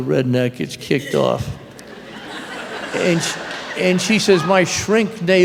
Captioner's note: laughter